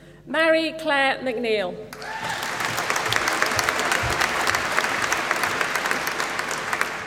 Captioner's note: applause